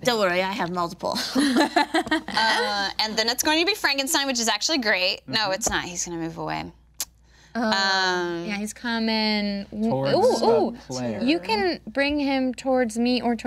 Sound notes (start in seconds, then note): 1.2 group laughing